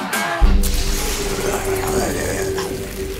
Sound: sizzling; growls

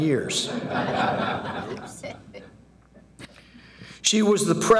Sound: audience laughing

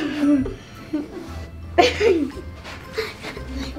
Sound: girls giggling

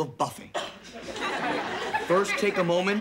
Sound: audience laughing

